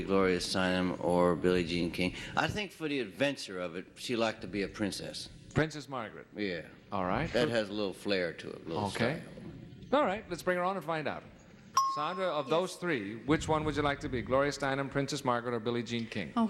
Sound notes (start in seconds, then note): none